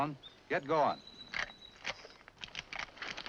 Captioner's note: rifle charges